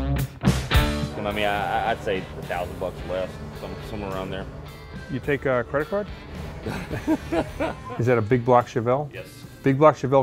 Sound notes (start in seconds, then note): 6.3 both laugh